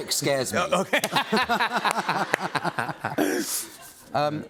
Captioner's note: laughter